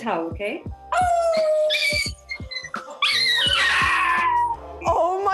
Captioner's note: both howling